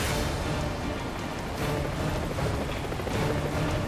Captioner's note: plane roaring